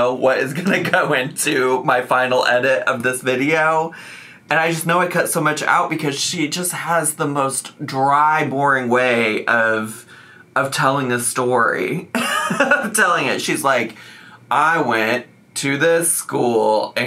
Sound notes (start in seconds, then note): 12.1 chuckles